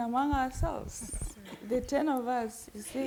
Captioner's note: panelists chuckling